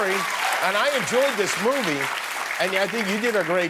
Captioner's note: cheers and applause